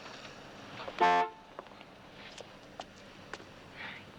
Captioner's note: horn honks